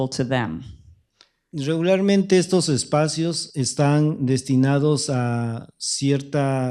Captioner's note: speaking spanish